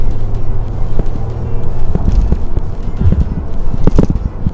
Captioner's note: Audi A3's 1 litre 3 cylinder TFSI engine revving